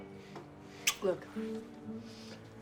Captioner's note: none